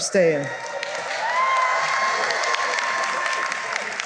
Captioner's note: cheering and applause